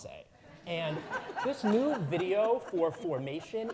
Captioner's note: audience laughing